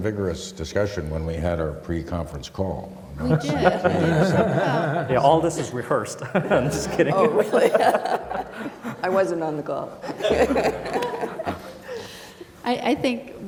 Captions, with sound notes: >> WE HAVE SOME VIGOROUS DISCUSSION WHEN WE HAD OUR PRE-CONFERENCE CALL. >> WE DID. >> YES, ALL OF THIS IS REHEARSED. JUST KIDDING. >> I WASN'T ON THE CALL [LAUGHTER].